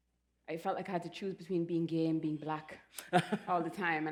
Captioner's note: laughs